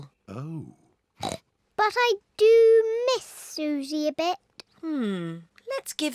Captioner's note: snorts